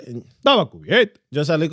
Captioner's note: speaking In Foreign Language